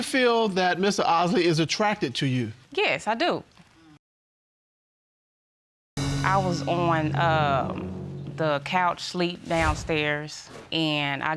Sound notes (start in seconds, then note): none